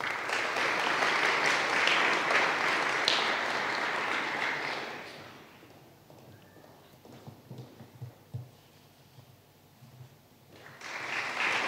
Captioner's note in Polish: oklaski